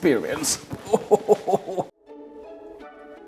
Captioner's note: laughing; upbeat music